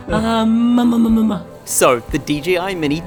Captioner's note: cooing